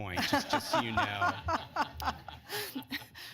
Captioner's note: laughter